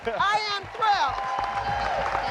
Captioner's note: cheering